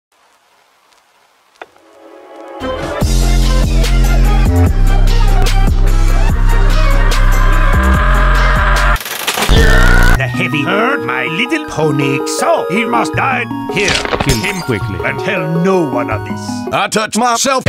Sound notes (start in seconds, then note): 0.1 soft record crackling in background; 6.6 Spy screaming fading in; 8.9 dispenser refill noise, bass boosted scream; 13.8 flesh and glass-breaking sounds